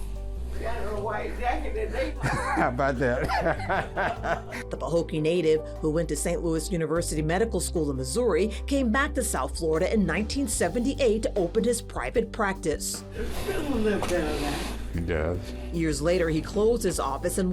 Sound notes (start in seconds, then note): 2.0 laughs; 2.1 chuckles